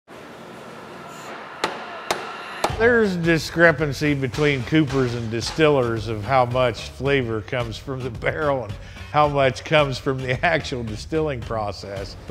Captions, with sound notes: (machine whirring) (hammer pounding) - There's discrepancy between coopers and distillers of how much flavor comes from the barrel and how much comes from the actual distilling process.